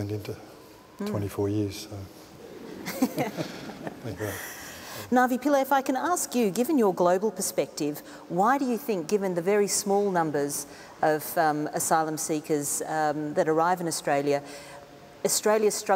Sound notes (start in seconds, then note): 5.1 laughter